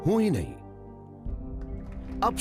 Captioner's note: applause